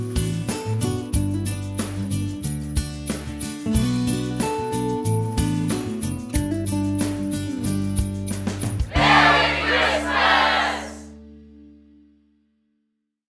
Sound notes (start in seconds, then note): 8.9 crowd cheers "Merry Christmas!"